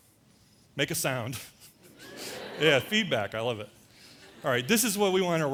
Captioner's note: laughter; audience makes noises